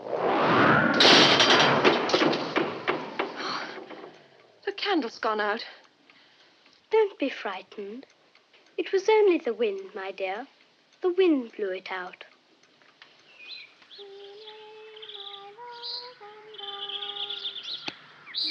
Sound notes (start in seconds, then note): 3.3 gasps; 17.2 birds chirping